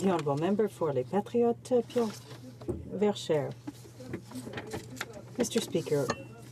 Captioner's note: speaking French